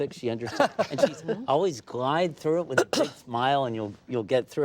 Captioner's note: laughter